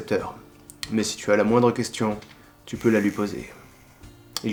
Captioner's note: struggle